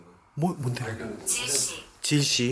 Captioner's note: stutter